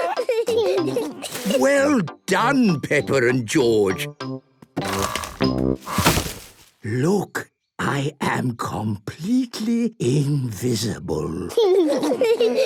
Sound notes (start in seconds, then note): 5.8 whispering; 11.6 kids giggling